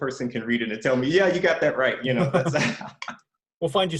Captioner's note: chuckles